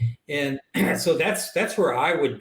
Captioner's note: clears throat